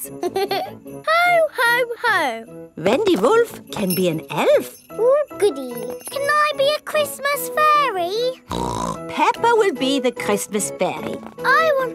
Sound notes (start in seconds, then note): 0.1 giggles; 8.4 snorts